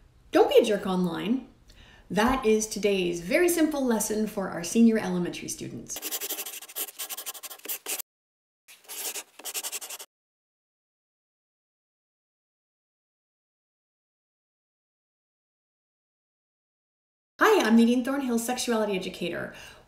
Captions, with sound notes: >>Don’t be a jerk online. That is today’s very simple lesson for our senior elementary students. [Scribbling] [Silence] Hi, I’m Nadine Thornhill, Sexuality Educator.